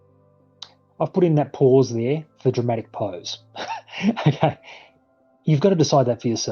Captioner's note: laughs